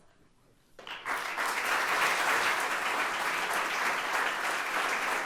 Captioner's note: audience applauding